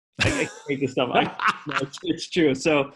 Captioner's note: laughing